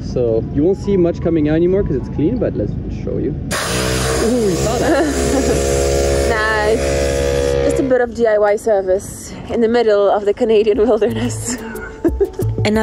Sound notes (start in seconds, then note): 3.5 air blasting; 3.5 machine whirring; 10.9 chuckles